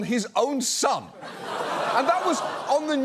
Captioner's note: studio audience laughs